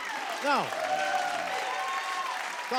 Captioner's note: cheers and applause